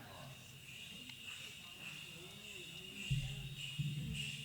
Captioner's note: bells jingling rhythmically as they approach